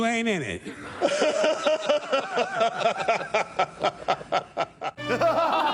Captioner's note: laughter; evil laughter